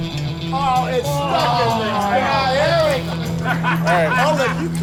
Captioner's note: laughing